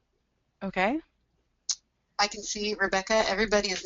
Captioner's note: voiceover